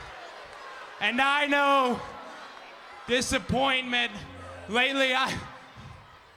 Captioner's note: sighs